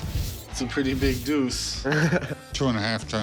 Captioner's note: laughs